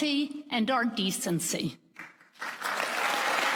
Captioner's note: applause